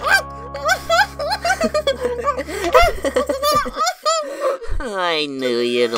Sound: laughing heartily

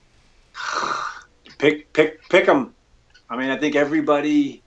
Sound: sighs

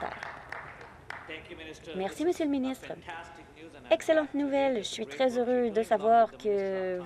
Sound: applause

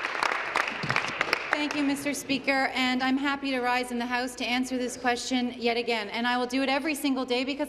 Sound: applause

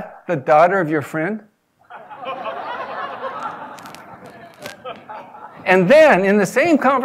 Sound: laugh

